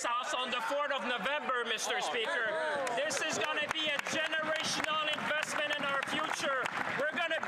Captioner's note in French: voix de l'interprète